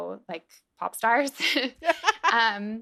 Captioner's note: laughter